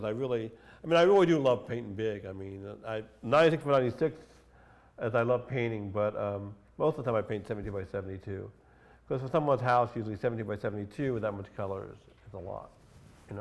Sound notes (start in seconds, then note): none